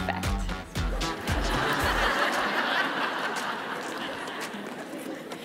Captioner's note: audience laughing